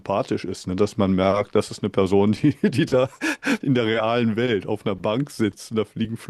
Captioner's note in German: gelächter